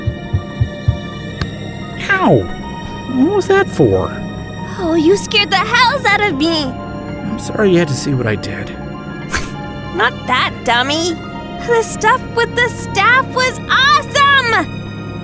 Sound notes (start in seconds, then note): 9.8 snorts